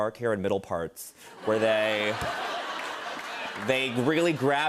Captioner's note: laughter